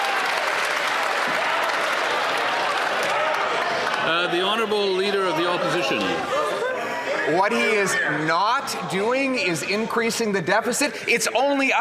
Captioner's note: some Applause